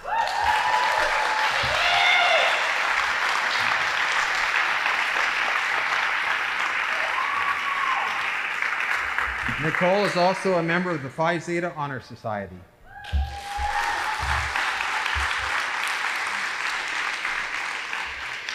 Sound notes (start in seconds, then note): 0.3 audience applauding; 13.1 audience applauding